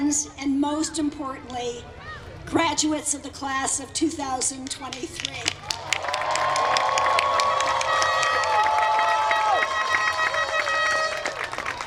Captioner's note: applause